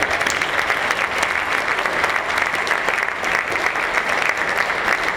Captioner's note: applause